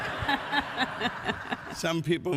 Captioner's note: audience laughs